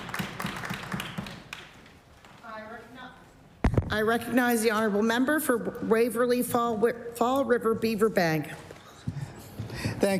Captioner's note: applause